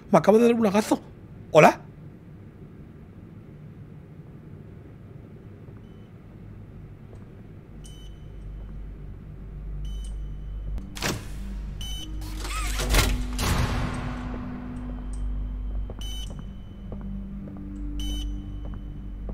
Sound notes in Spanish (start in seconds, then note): 7.8 Pitido; 14.9 Pitido